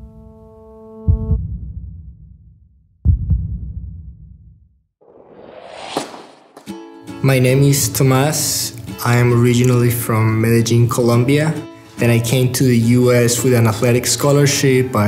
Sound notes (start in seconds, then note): 0.1 heart beating; 5.9 echo of tennis ball being hit